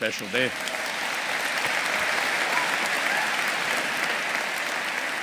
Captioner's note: audience applauding